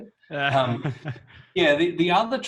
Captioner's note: laughs